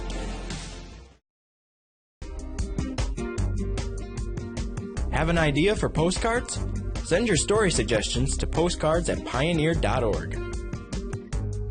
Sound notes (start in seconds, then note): 2.3 casual music; 5.2 voiceover